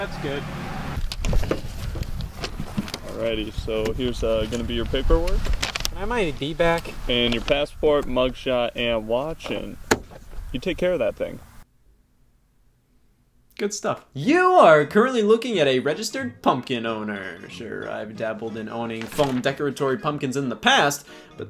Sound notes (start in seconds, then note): 1.0 thudding